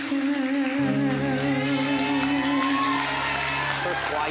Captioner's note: audience applauding